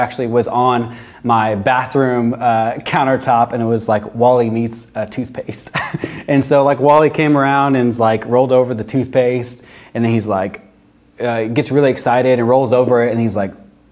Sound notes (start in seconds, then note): 5.6 chuckles